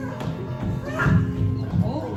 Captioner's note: crying child screams